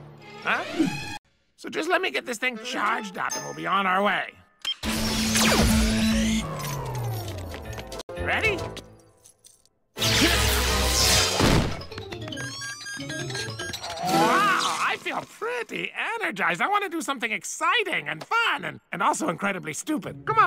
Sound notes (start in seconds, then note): 4.8 electrical noises; 10.0 electrocution noises; 12.3 defibrillator beeps